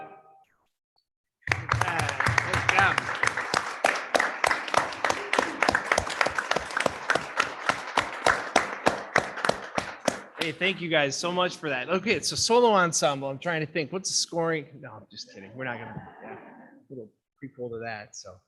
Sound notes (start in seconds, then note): 1.4 all clapping; 15.2 vocalists laughing